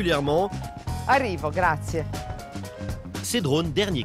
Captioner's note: speaks in Italian